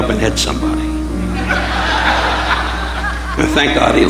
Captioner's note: audience laughing